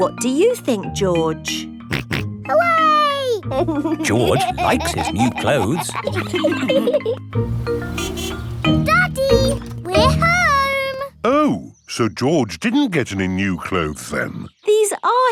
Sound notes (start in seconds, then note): 3.4 snorts and laughs; 7.4 horn honks